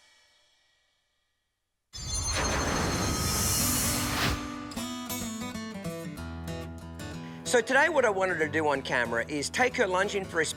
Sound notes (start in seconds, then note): 2.0 air whooshing